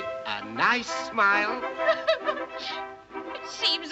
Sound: sobs

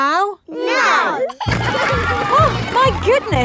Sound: giggling

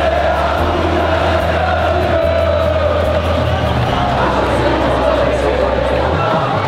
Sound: crowd chanting

